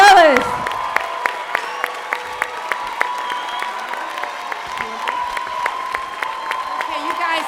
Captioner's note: cheering